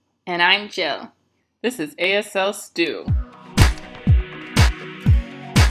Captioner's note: hand slap